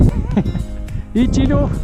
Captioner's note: laugh